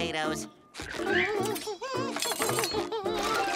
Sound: humming

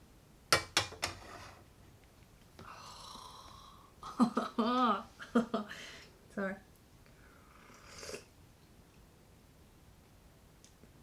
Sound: laughter

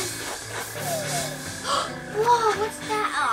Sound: gasps

